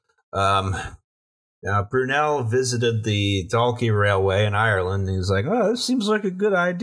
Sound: Brunel voice

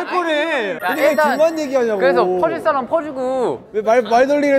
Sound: conversation taking place

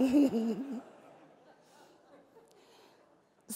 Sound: laughs

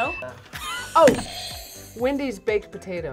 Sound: buzzer rings

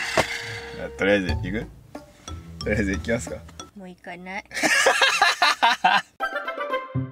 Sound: laughter

